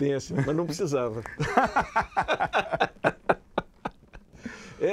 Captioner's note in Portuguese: Risadas